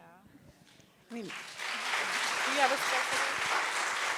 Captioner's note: applause